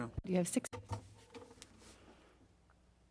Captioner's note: speaking French